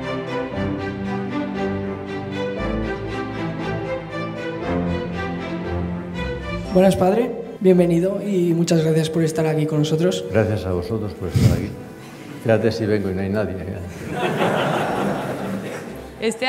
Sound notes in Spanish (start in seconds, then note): 13.9 risas